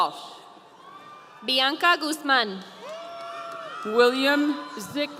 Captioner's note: audience cheering